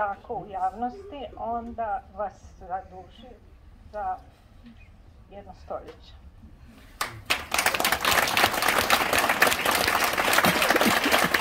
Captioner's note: applause…